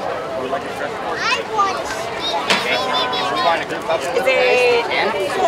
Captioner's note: babbles; people chattering